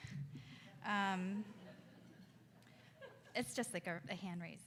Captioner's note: audience laughs